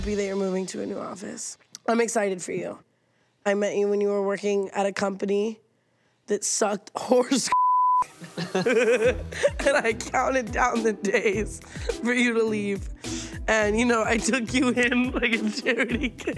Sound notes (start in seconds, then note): 7.5 beep